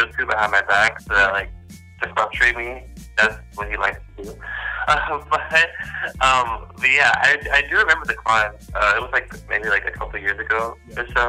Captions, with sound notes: So that like disrupting me Because that's like what he likes to do *laughs* But yeah I do remember the climb it was maybe like a couple years ago